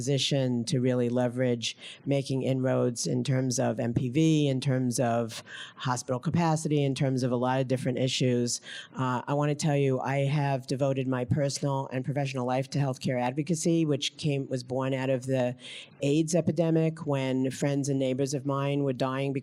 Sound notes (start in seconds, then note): none